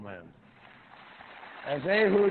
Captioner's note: applause